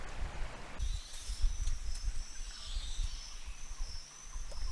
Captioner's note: crickets chirping